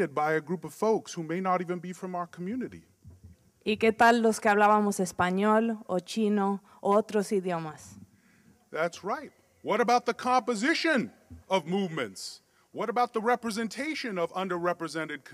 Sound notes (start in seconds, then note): 3.5 speaking in Spanish